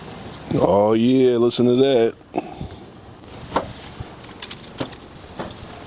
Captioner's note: burgers sizzling on the grill